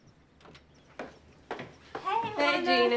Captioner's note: birds chirping